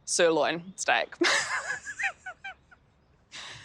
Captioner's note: laughs